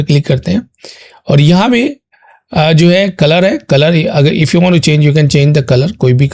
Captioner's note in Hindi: नाक से की जाने वाली आवाज़